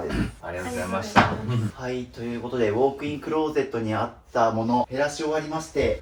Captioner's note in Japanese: 咳払い